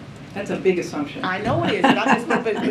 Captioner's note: laughter